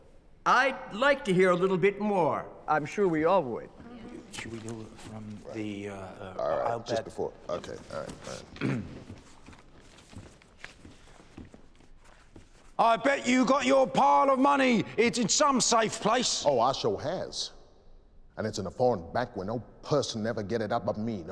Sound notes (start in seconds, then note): 8.1 clearing throat